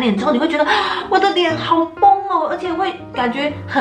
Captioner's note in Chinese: 吸氣